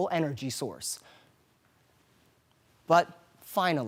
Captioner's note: soft breathing